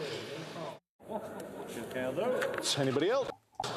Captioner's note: none